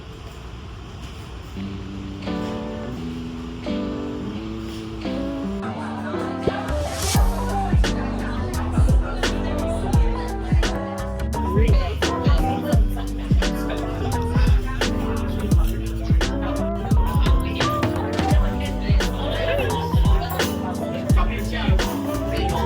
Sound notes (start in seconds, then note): 11.2 laughs